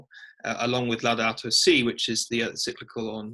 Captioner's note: speaking in foreign language